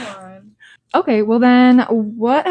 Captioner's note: laughs